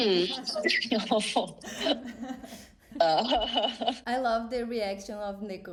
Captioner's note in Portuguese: risada